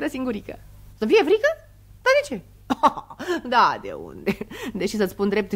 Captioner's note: laughs